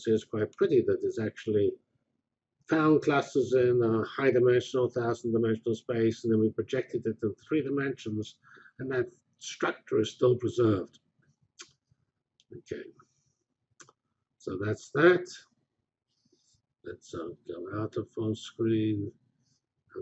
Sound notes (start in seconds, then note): 10.2 pause